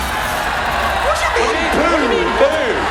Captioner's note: audience boos